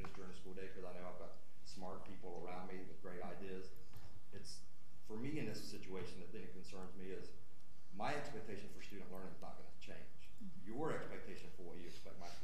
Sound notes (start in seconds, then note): none